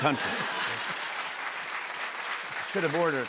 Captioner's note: laughter, applause